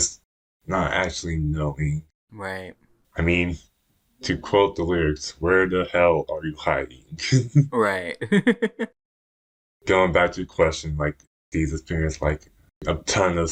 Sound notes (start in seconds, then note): 7.3 laughs